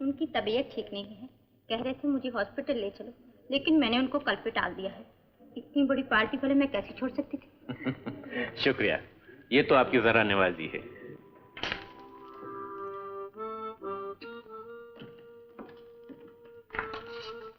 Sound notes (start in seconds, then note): 7.6 chuckles